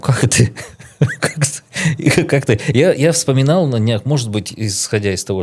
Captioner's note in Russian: смех